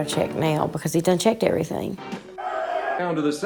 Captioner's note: crowd on TV clamoring